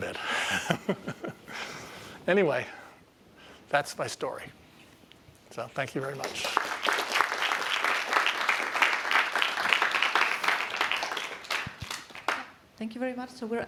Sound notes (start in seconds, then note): 0.3 laughs; 6.0 applause